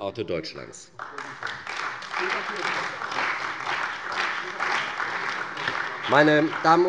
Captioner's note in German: Beifall bei der CDU und dem BÜNDNIS 90/DIE GRÜNEN